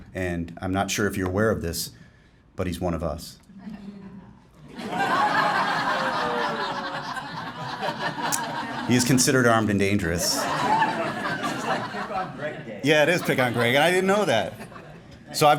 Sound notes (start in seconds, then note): 4.6 laughing